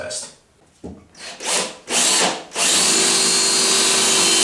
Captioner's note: drilling